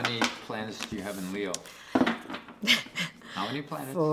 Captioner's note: laughs